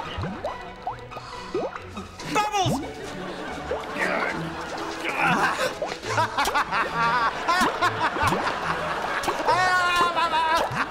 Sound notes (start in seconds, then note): 5.1 grunting; 5.9 laughing